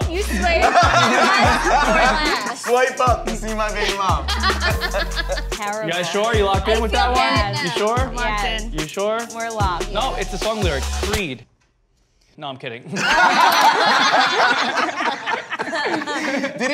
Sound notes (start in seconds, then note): 4.5 group laughs; 12.9 group laughs